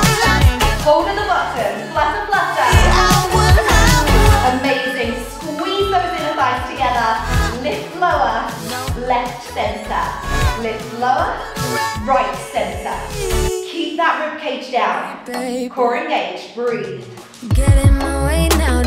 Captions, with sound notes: Holding, flutter, flutter. (alarm beeping) Amazing, squeeze those inner thighs together. Lift, lower, left, center. Lift, lower, right, center. Keep that rib cage down. Core engaged, breathe.